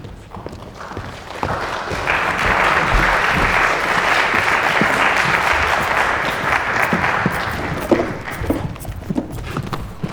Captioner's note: audience clapping